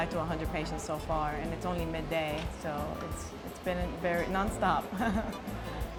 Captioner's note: chuckles